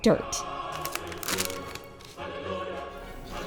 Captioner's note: plastic crinkling